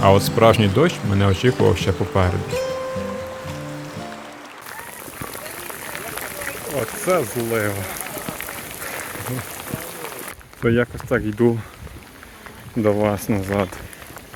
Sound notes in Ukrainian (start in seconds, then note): 4.4 оплески